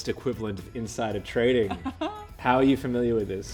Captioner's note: laughs